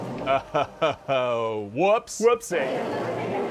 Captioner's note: chuckles